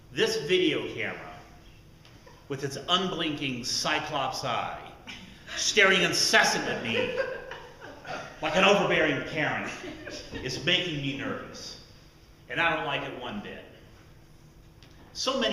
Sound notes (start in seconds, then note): 9.6 laughter